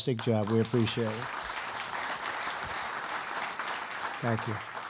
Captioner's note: applause